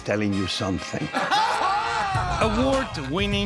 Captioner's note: laughing